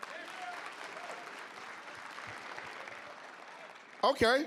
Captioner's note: applause, cheering